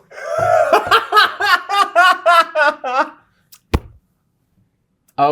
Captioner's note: laughter